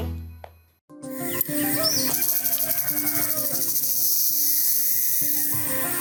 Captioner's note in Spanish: chirrido de insectos